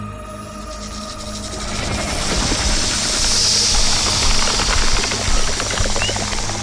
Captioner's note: snake hisses; snake rattles